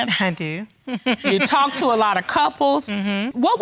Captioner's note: chuckles